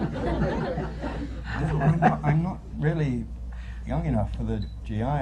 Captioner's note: laughter